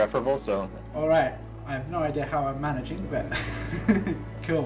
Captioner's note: laughs